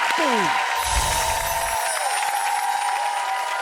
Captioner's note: applause